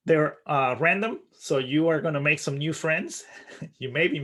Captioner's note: chuckling